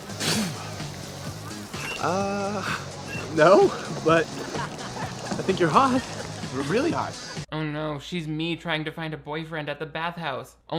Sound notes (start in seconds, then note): 0.0 Raymond spits; 5.6 people laughing; 7.0 Aquamarine scoffs